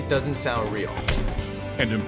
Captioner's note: punching bag clinks